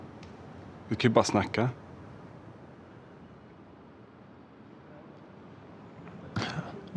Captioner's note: continues conversing in foreign language